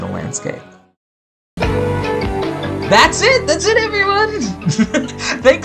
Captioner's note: laughs